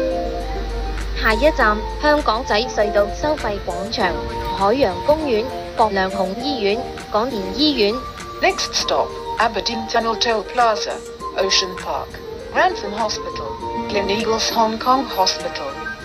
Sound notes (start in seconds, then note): 0.9 Cantonese